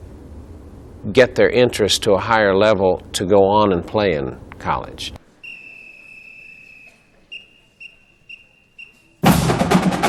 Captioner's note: whistles blow starting the Band Day performance